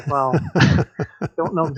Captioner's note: laughter